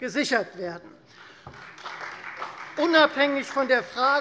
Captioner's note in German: Beifall Freie Demokraten, vereinzelt CDU und BÜNDNIS 90/DIE GRÜNEN